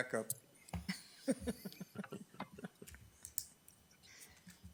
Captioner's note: laughing